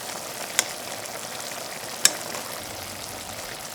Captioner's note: food sizzling